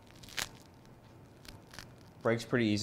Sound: roll cracks

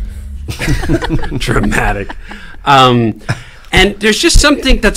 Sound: laughing

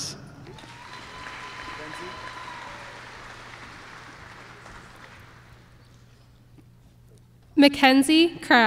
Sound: applause

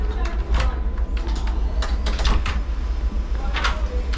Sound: locks clacking

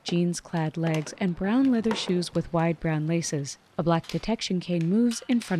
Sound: plastic ticking, rolling against stones

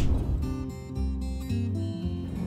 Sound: air swishes

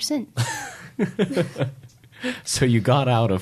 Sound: laughing

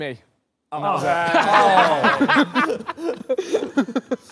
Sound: laughter

